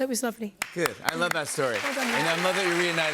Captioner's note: applause